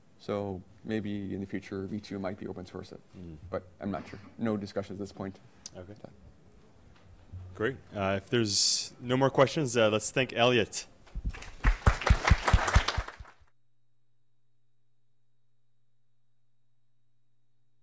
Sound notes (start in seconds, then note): 11.2 applause